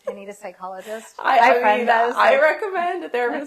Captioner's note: laughs